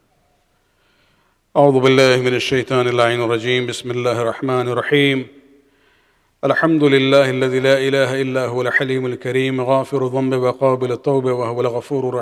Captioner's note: arabic